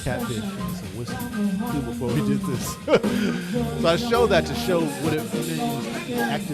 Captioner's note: laughs